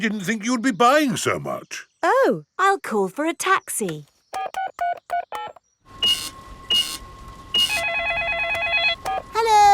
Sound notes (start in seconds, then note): 4.3 dialing; 5.9 cash register beeping; 7.4 beeps; 7.5 cellphone ringing